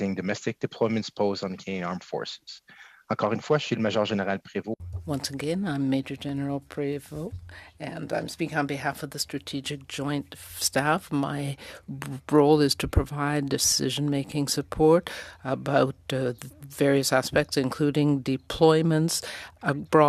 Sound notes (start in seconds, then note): 10.0 speaking French